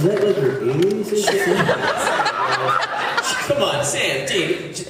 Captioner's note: laughs